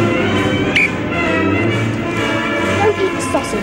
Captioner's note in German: Pfeife trillert